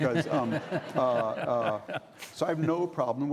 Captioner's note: laughing